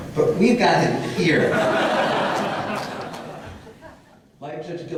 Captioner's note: audience laughter